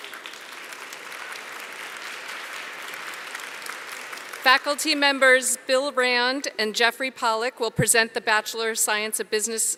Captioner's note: applause